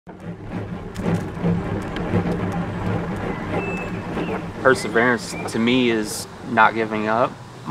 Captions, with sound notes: (birds chirping) - Perseverance, to me, is not giving up.